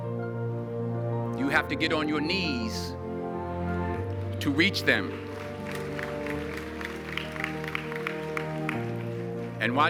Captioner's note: audience applause